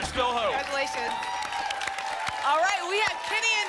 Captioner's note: applause and cheering